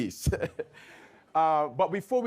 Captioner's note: laughs